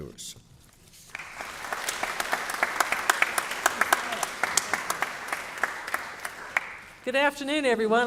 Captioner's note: applause